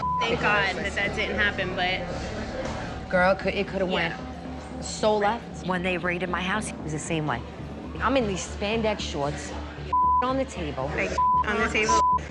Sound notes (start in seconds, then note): 11.1 beep